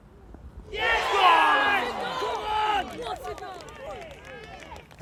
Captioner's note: loud cheers